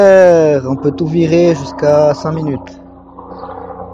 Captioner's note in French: bruit d’hélicoptère